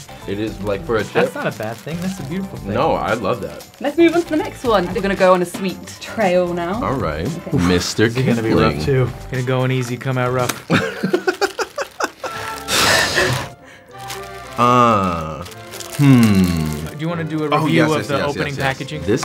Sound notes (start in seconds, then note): 10.6 Jaboukie laughing; 13.8 melodic orchestral music